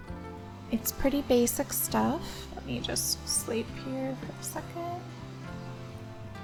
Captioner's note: quietly